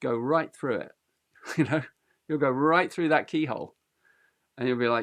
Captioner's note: chuckles